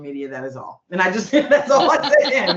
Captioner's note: laughing